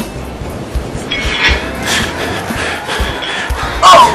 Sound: men Grunting and Weight Lifting

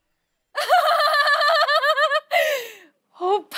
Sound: laughing hysterically

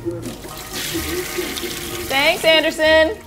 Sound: television program chattering; toilet flushing

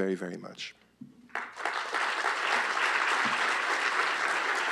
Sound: applause

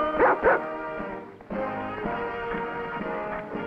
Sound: Rebel barking

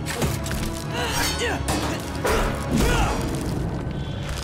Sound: grunting

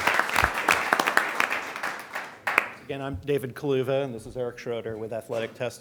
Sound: applause

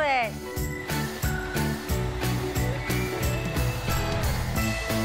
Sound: hair dryer blowing

